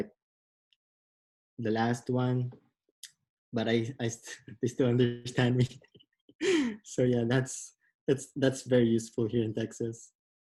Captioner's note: laughs